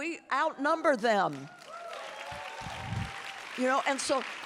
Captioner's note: audience applauding and cheering